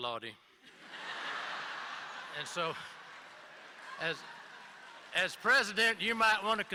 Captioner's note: laughter